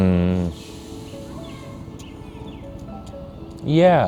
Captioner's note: birds chirping; gentle poignant music